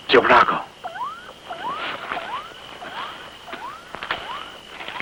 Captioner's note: electronic beeping